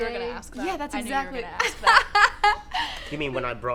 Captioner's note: laughing